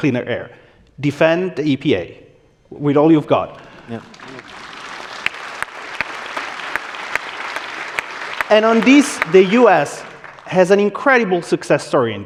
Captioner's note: applause